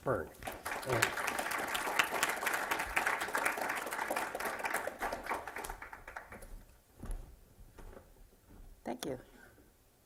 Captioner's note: applause